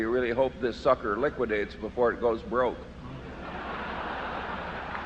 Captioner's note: laughter